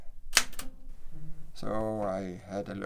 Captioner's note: typewriter clanks